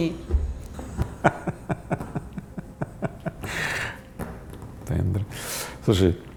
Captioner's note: laughing